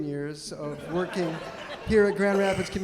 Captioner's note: audience laughing